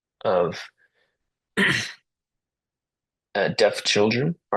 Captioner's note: interpreter clears throat